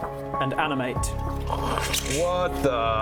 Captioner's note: whoosh